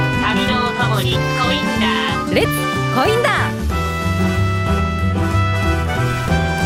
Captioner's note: Japonês - mantido no original